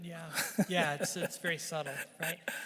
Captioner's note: chuckling